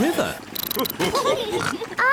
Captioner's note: all laugh